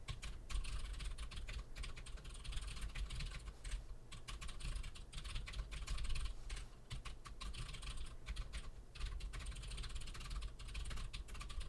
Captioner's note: typing sounds